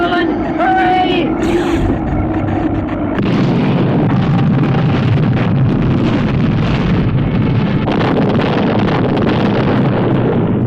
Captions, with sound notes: - Professor Levelland, hurry! (engines booming)